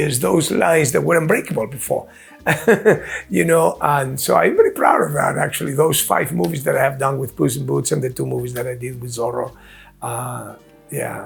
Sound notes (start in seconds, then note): 2.4 Antonio chuckling